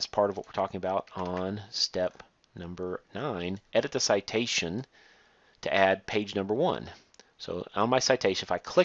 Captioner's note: click